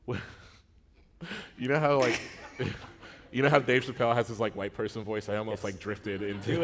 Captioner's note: laughter